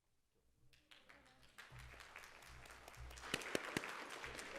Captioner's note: audience claps